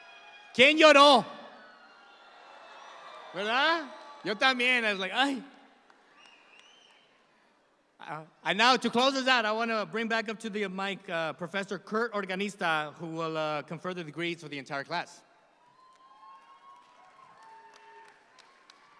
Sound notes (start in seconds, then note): 0.8 speaking in Spanish